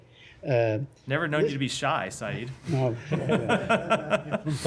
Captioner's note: laughter